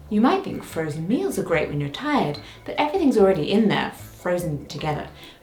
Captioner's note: none